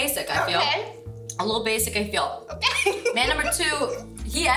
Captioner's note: laughs